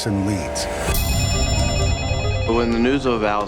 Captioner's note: telephone rings